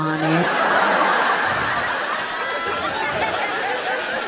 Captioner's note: audience laughs